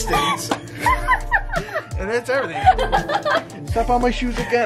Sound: laughs

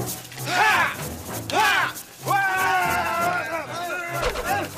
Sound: yells

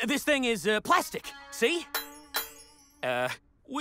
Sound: clanging

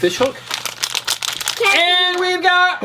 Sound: bag crinkles

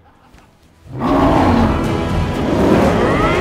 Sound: roaring; dramatic music; grunting

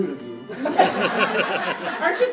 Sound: audience laughing

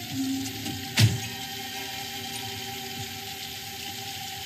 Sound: door slams

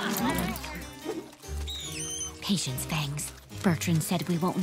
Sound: screeches

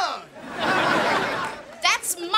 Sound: laughing

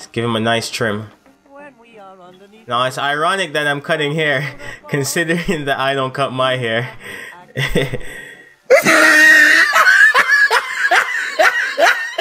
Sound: laughing

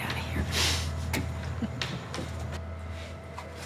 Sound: chuckles

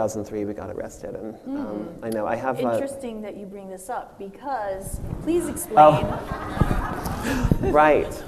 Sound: audience laughs

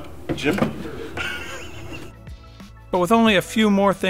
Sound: chuckles

